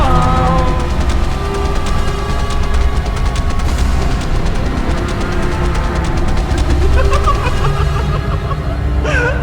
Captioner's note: laughter